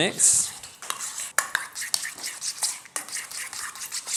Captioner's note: sizzling